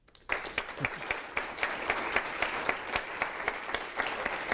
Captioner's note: applause